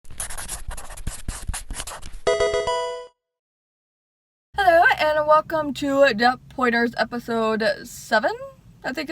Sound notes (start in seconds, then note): 0.0 marker scratching; 2.3 electronic video game chime